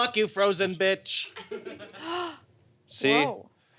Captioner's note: laughter